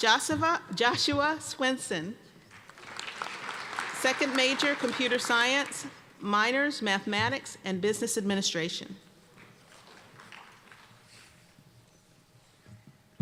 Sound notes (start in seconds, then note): 2.5 applause